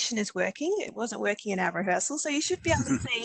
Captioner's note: laughter